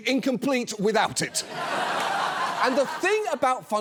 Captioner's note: audience laughs